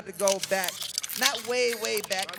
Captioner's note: paper rustling